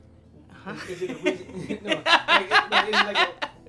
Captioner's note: laughing